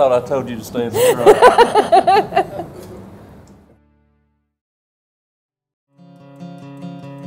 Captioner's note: laughing